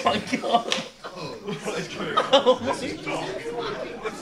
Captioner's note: audience groans